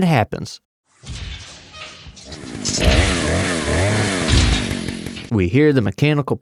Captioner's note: mechanical stomping sounds and a chainsaw revving